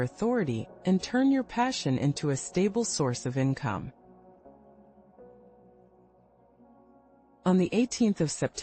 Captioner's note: pause